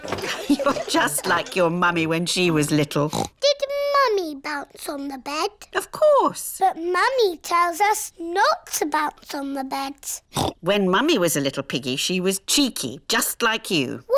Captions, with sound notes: You're just like your Mummy when she was little. Did Mummy bounce on the bed? -Of course. -But Mummy tells us not to bounce on the beds. (OINKS) When Mummy was a little piggy she was cheeky, just like you.